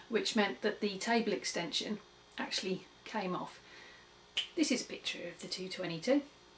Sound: finger click

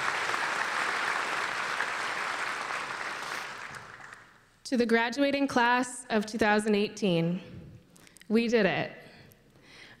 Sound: applause

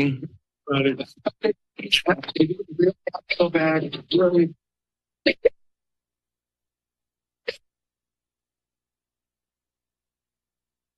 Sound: background conversations

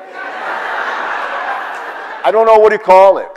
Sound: audience laughs

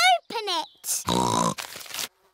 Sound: snorts

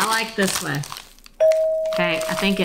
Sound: bell dinging

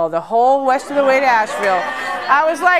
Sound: laughter

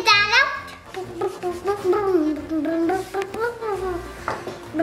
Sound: humming

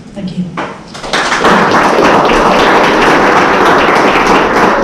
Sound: audience clapping

